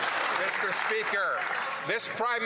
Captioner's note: some Applause